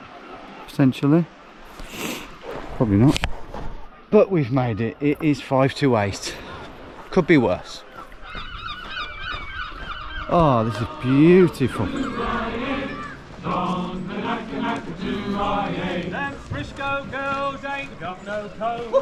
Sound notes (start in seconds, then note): 8.2 seagulls squawking